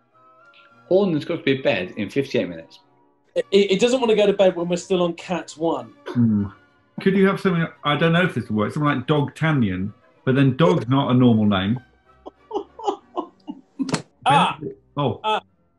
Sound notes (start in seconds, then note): 12.3 giggling